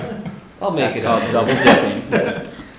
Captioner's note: laughter